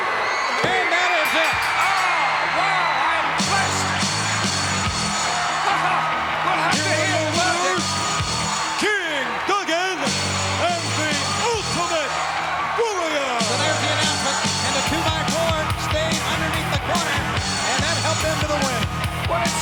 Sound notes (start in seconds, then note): 1.1 bell rings; 5.4 laughs